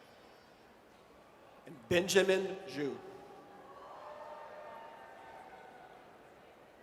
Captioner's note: audience cheers